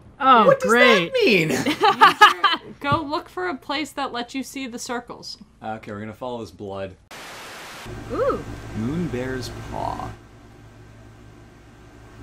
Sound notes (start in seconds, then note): 1.0 laughs; 7.2 Static